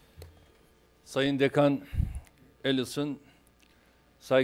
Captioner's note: non-english speech